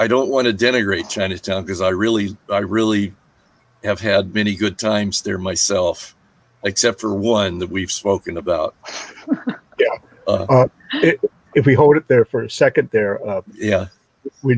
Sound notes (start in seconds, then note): 8.8 laughing